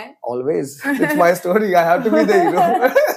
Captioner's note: laughs